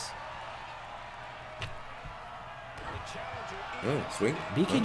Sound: applause

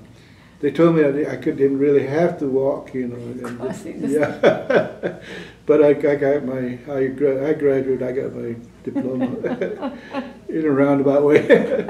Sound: laughter

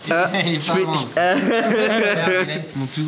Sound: laughs

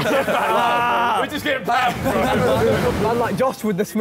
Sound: all laughing

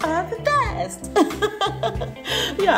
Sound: chuckles

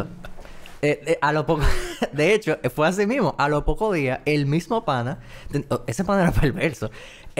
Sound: laughs

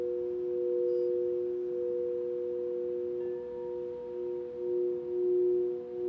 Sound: bowls hum simultaneously

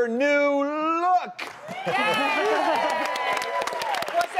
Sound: audience applauding; audience cheering

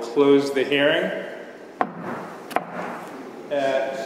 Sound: gavel sounds

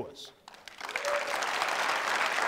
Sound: applause

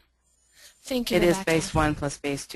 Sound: voiceover

